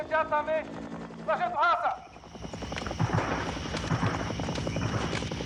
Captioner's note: man On Loudspeaker; distant Gunshots; man On Loudspeaker